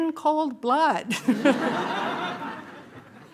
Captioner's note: laughter